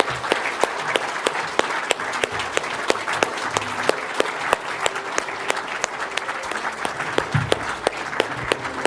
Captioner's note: applause